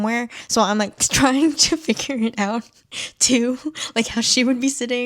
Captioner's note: laughing